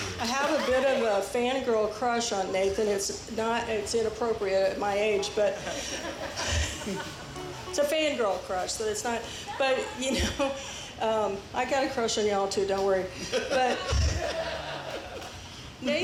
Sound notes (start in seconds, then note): 5.2 audience laughs; 13.5 band and audience laugh